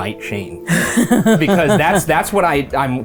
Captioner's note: laughs